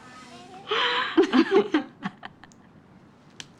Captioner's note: both laughing